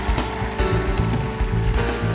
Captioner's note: cheers and applause; band playing